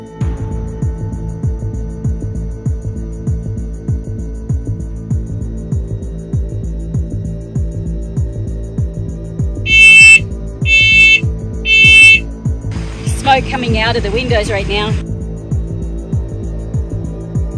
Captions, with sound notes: (suspenseful music) (smoke alarm beeping) - There's smoke coming out of the windows right now.